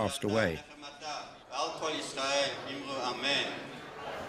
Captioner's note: Yiddish